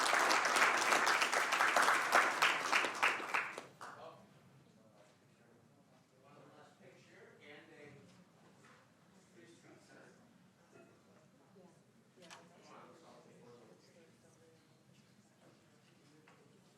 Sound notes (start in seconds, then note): 7.4 applause